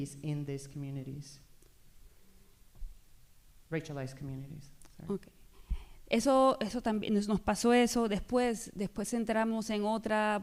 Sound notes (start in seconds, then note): 6.1 speaking spanish